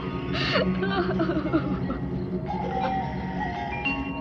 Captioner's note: crying